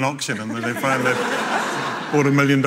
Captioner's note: audience laughing